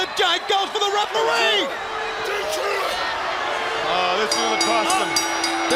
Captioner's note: crowd chatter